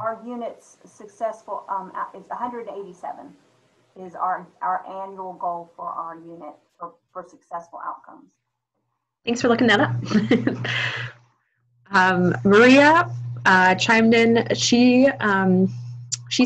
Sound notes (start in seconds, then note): 5.7 chuckling